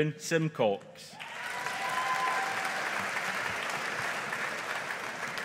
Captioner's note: audience applauding